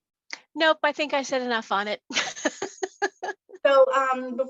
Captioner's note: laughs